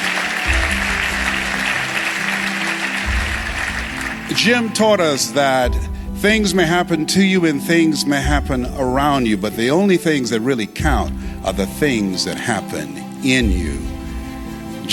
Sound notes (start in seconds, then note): 0.0 applause